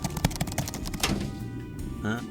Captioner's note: metal clang